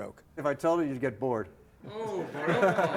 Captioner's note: laughter